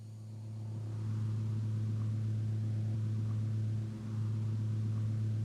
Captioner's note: machinery rumbling